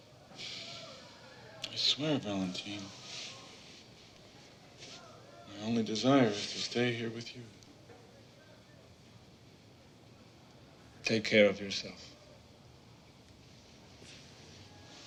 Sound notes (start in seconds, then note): 0.3 sighs